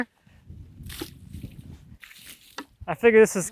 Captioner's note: water sloshing